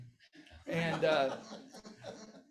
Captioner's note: audience laughs